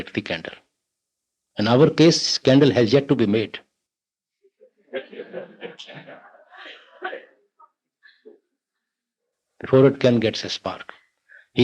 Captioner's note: laughter